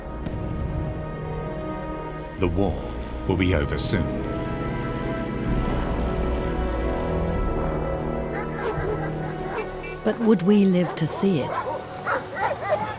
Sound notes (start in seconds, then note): 4.9 solemn music; 6.7 dog barks